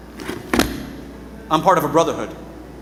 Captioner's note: fists thumping